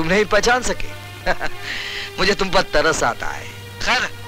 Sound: chuckles

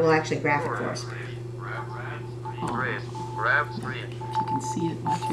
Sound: calculator Sounds

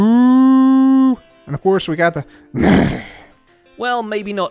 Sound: horse snorting noises

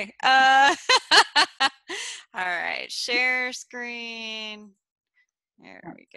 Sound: laughs

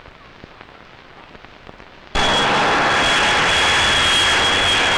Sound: city noises

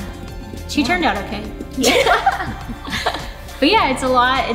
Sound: all laugh

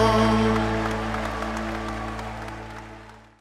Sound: audience cheering

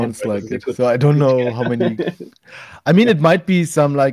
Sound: laughs

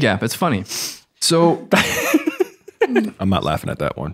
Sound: laughs

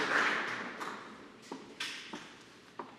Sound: applause

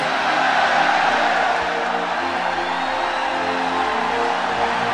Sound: applause

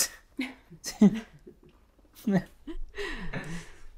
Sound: both laughing

